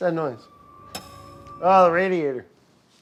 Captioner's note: metals clicking